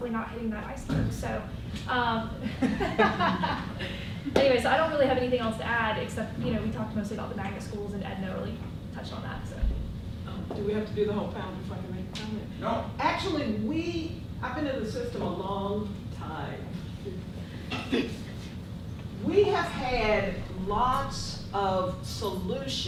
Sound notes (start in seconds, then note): 2.4 laughter